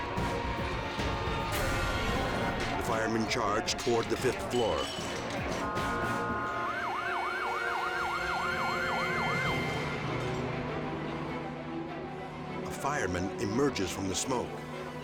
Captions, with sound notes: The firemen charge toward the fifth floor. (sirens wailing) (tense dramatic music) A fireman emerges from the smoke,